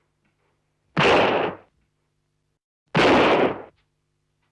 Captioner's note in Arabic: صوت طلقات نارية